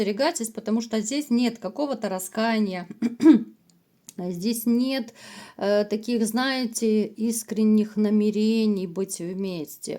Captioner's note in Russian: откашливается